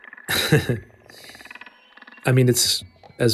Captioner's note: chuckles